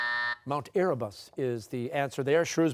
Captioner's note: buzzer